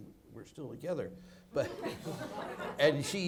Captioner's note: audience laughs